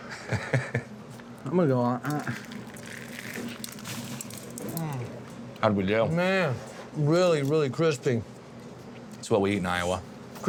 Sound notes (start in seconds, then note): 0.1 laughs; 2.0 crunchy sound